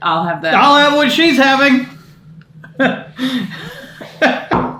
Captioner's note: laughs